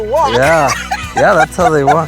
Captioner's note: laughs